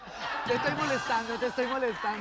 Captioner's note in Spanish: Risas